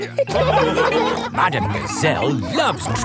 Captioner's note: laughing